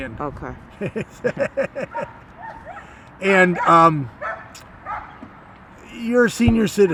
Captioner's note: laughs